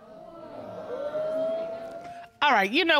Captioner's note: audience boos